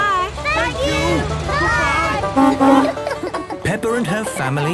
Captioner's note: honking